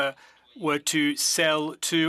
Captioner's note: speaking French